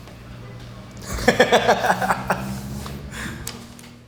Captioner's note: laughter